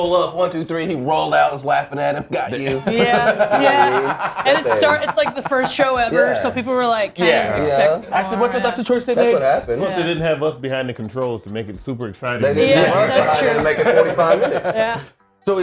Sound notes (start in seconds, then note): 1.9 laugh